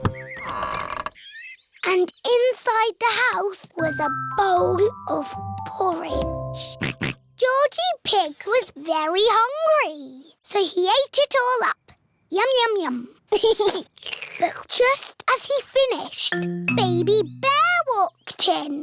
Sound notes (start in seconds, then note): 0.0 door creaks; 6.6 oinks; 13.3 giggles; 13.9 slurps